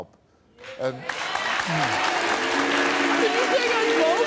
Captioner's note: audience applauding